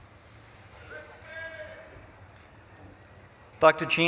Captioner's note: audience member shouts